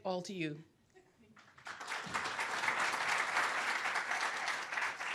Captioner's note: applause